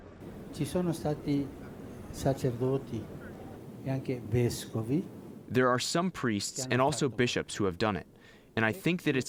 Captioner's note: through translator